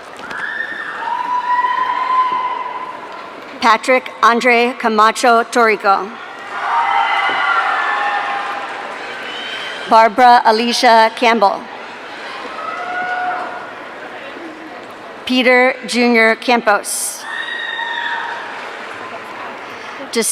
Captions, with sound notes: (audience cheering) Patrick Andre Camacho Torigoe. (audience cheering) Barbara Alicia Campbell. (audience cheering) Peter Junior Campous. (audience cheering)